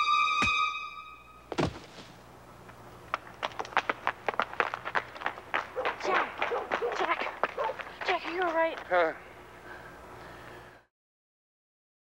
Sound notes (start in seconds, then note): 0.4 blow thuds; 3.0 footsteps clacking; 9.6 Jack gasps